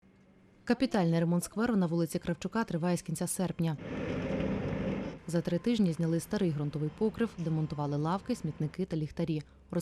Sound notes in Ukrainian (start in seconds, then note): 3.8 звуки техніки